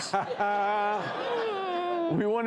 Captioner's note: laughs